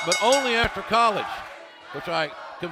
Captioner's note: bell ringing